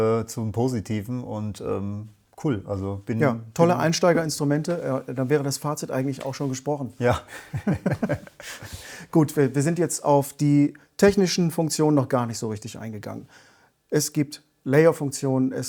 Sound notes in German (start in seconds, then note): 7.2 gelächter